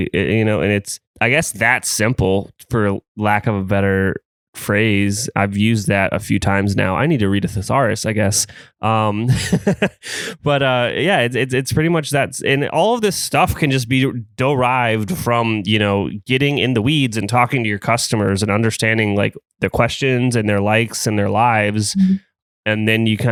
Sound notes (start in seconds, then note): 9.0 laughs